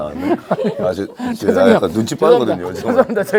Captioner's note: haha